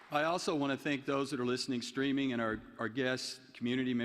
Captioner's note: applause